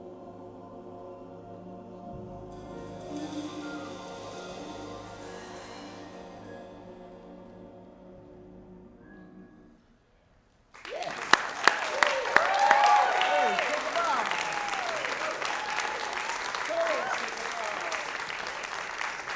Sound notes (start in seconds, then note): 10.7 applause, cheering